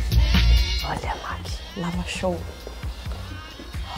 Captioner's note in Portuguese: sussurra